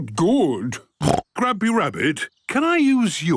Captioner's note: snorts